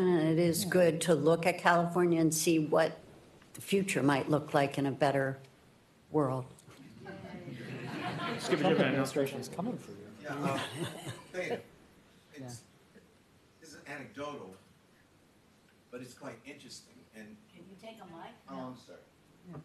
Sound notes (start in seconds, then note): 7.4 laughter